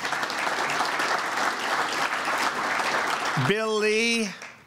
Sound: applause

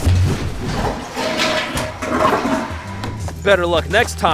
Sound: objects rattling

